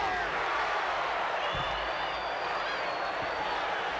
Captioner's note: crowd cheers